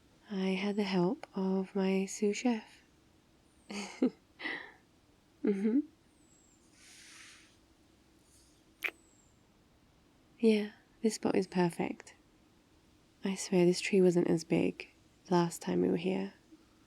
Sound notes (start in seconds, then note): 3.7 laughs; 7.3 kiss